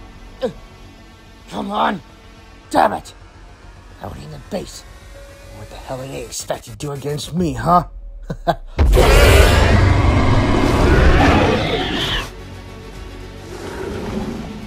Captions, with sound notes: Ugh! Come on, damn it! They've arrived at the base. I don't know what the hell they expect to do against me, huh? Ha ha. (Indominus Roars Loudly)